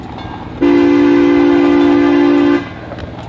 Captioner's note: sound of train horn